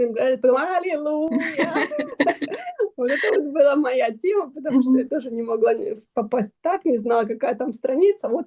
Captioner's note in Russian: смех